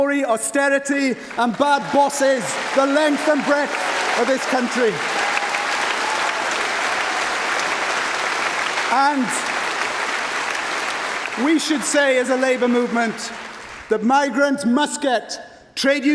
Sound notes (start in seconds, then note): 13.1 applause